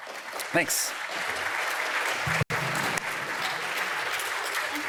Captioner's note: applause